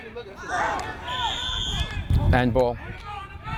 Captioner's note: whistle